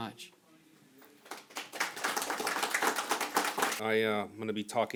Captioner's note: audience applauding